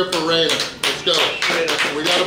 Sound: applauding

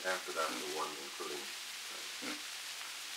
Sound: Murrow, mumbling

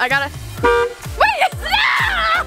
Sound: truck horn

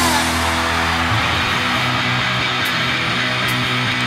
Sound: crowd cheering

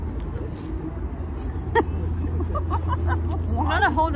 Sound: laughing

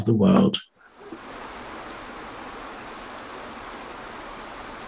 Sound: water streaming

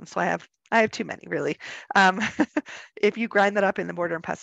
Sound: person laughing

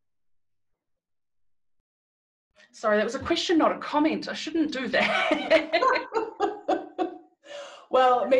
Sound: laughter

